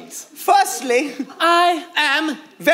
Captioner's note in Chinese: 德国口音